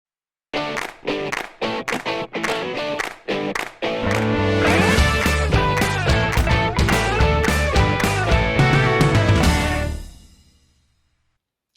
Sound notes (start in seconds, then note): 0.6 claps